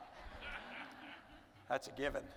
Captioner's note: audience laughing